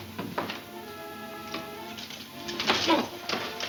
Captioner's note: grunting